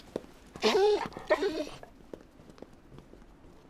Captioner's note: whimpers